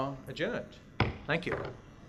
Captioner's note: gavel bangs